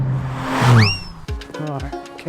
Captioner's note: car engine humming